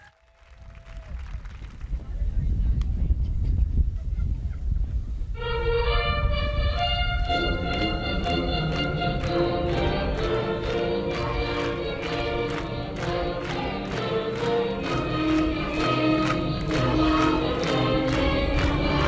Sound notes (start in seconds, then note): 0.0 audience applauding; 5.4 upbeat music; 7.2 audience clapping; 8.5 upbeat music